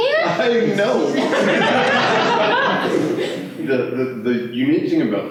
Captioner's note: laughter